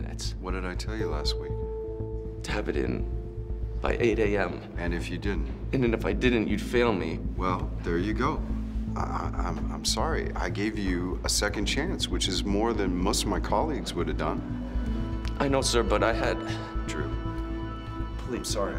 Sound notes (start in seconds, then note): 16.4 sighs